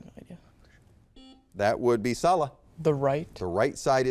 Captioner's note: buzzer beeps